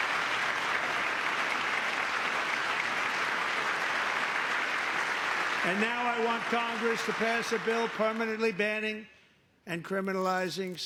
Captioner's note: applause